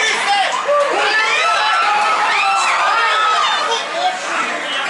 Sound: loud Cheering

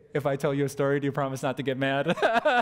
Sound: pastor: Laughter

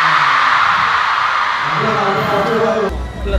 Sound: huge cheer / finished his performances successfully

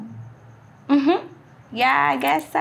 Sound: giggling

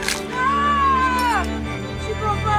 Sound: yells

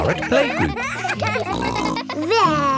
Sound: kids giggling

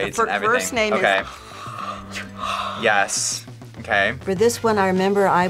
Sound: yawns

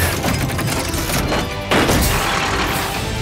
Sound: none

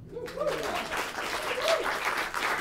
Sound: applause

